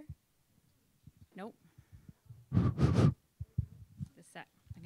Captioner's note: blows air